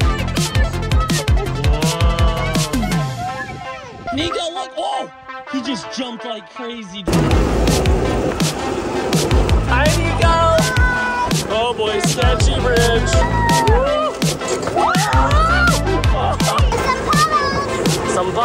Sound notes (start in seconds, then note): 7.0 engine whirring; 12.1 people screaming